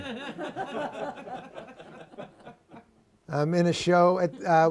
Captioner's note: laughter